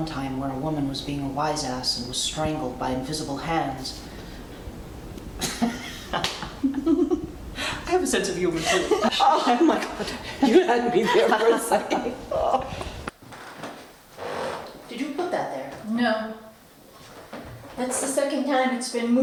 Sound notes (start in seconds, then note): 5.4 Alice laughs; 5.4 Leocardia laughs